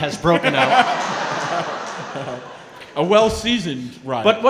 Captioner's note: laughing